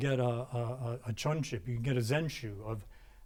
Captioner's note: speaking in a foreign language